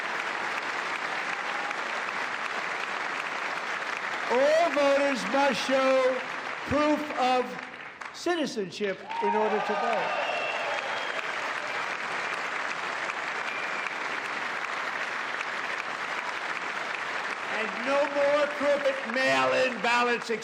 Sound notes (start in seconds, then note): 8.8 cheers and applause